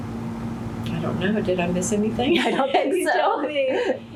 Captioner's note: laughter